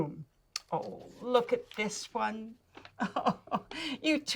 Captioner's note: laughs